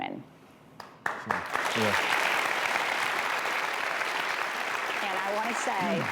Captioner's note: applause